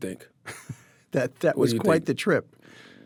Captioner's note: laughs